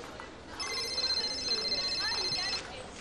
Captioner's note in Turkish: Telefon çalar